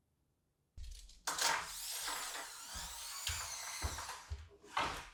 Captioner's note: tool thuds; tape measure whirring